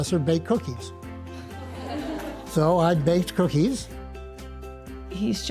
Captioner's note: laughter